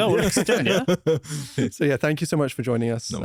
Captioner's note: laughs